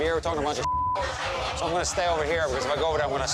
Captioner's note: beep